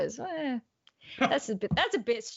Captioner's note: hums softly